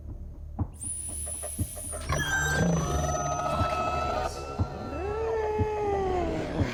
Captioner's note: dinosaurs screeching; dramatic music